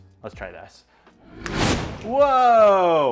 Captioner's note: explosion